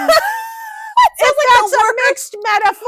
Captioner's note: laughing